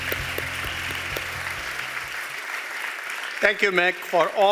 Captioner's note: applause